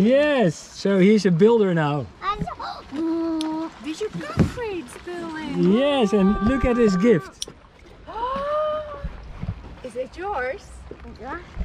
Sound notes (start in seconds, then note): 2.4 babbles; 8.1 gasps